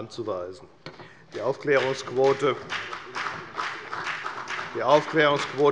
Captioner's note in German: Beifall bei der FDP und bei Abgeordneten der CDU